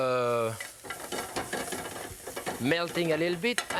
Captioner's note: pan clattering